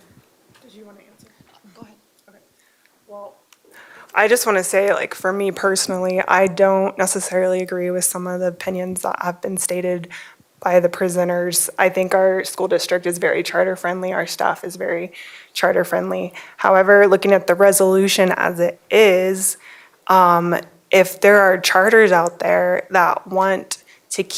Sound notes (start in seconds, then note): none